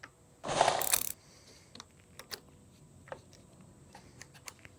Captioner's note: tab whooshing